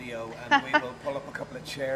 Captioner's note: laughing